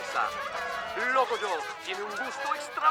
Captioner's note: narrator speaking Spanish